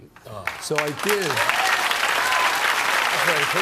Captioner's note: applause